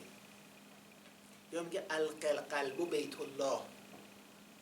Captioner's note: quoting in Arabic